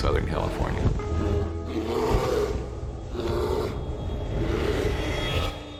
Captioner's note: bear growling